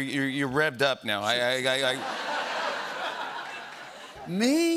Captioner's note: laughter